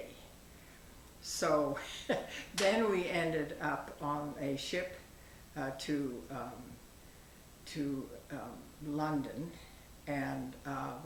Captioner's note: chuckles